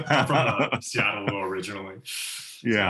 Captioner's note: laugh